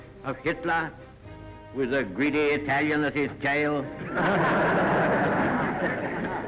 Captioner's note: laughing